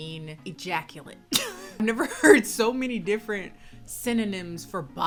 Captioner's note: laughs